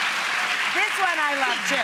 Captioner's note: audience claps